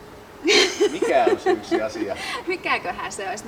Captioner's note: laughter